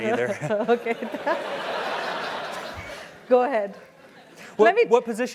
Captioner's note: laugh